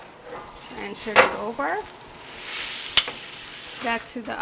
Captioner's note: meat sizzling